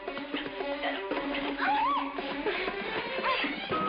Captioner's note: screaming